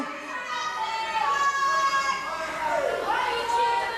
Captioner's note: yells; crowd shouts